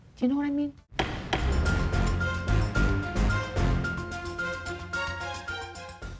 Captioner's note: gavel banging; authoritative music